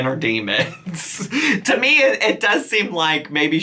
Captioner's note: chuckles